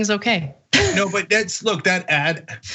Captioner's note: laugh